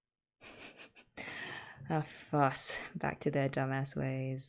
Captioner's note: laughs